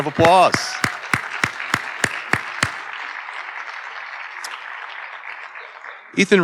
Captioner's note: audience cheering and applauding